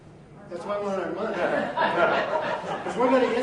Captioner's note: audience laughs